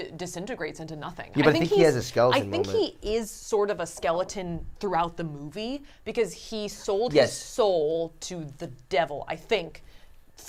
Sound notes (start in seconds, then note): none